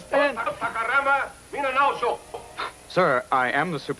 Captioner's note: on-screen person speaking in foreign language